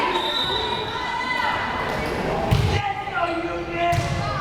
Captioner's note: whistle blares